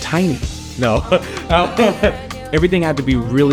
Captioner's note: laughs